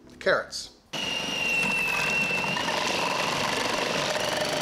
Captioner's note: machine whirs